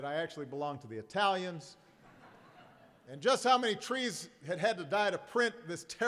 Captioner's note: laughter